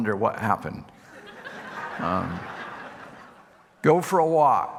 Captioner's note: audience laughing